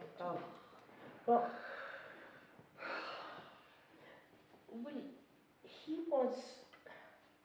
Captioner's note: none